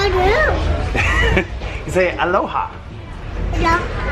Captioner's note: laughs